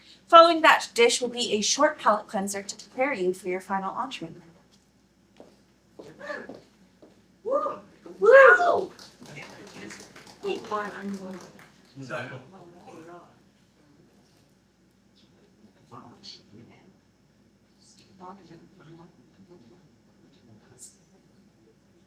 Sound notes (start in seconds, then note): 4.3 audience woos, applause